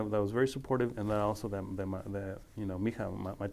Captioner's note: speaking foreign language